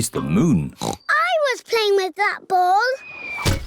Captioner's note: oinks; thudding